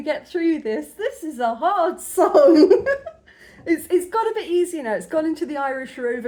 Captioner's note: laughing